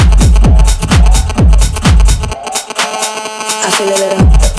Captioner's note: crowd whooping